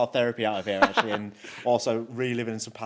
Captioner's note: laughs